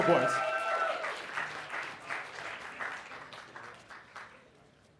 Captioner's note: applause